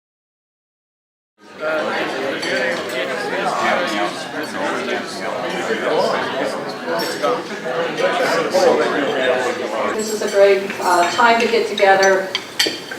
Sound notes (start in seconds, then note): 1.4 background talking